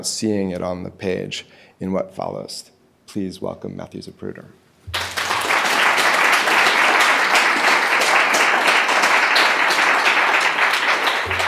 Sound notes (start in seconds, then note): 4.9 audience applauding